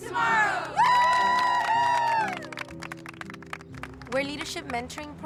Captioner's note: group cheers